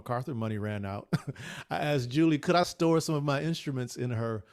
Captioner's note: laughs